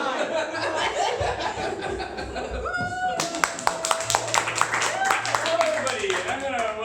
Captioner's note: laughter and applause